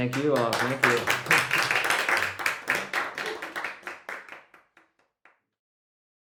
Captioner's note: applause